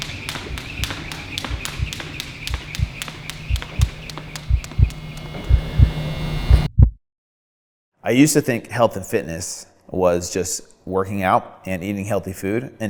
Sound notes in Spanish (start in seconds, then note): 2.6 latido del corazón